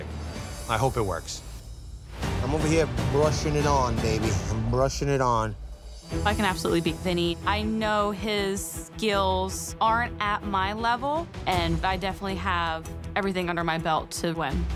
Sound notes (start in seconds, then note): none